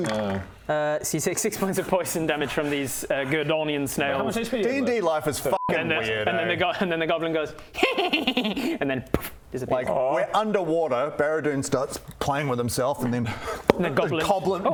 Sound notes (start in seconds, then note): 9.1 pff; 13.7 pop